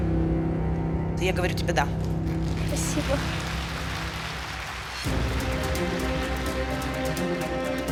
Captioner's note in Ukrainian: оплески